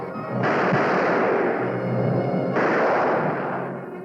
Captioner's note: gunfire